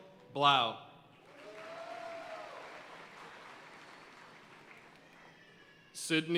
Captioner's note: audience cheering and applauding